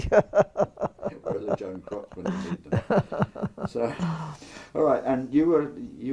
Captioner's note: laugh